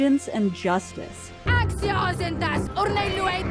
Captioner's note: in Dothraki